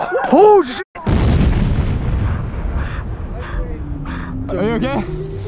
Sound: bomb exploding

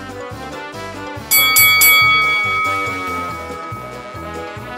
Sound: bell dinging

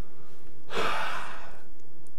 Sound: sigh

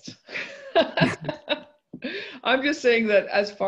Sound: laughs

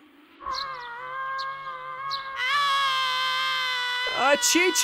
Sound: screaming endlessly

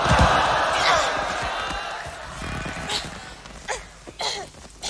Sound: applause

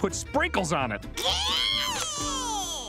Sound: squealing

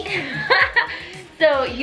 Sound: laughing

